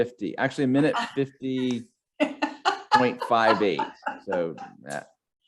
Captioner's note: laughing